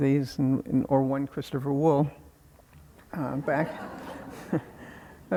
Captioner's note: audience laughing